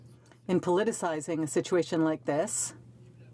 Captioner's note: speaking in french